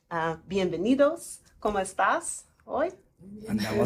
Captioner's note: Spanish